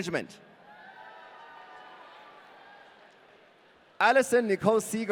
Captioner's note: audience cheering